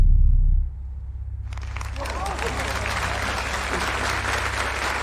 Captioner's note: audience gasping, applauding